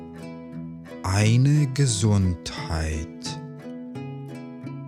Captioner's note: german